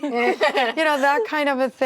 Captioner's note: actresses laughing